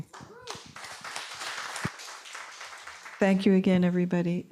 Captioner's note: applause and cheering